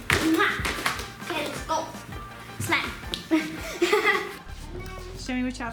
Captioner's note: laughs